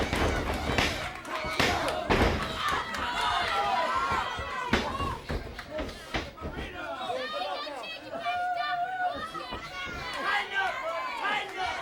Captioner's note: crowd chatter